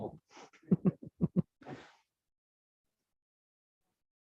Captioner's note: laughs